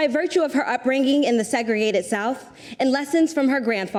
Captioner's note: none